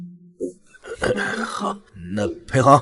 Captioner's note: cough cough